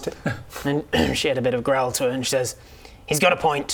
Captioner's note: grr